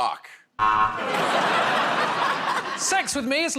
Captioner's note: buzzer